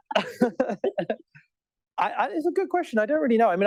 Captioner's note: laughter